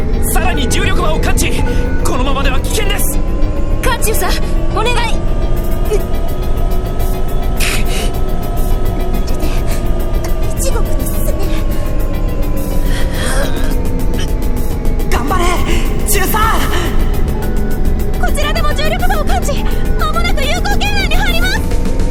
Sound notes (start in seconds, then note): 6.7 pained grunting; 12.9 labored grunting